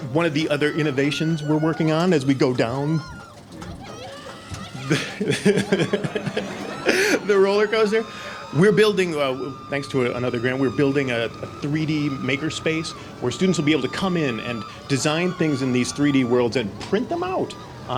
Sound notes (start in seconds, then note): 4.6 video playing - screaming on roller coaster; 5.9 laughing